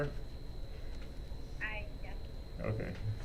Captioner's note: speaking On Computer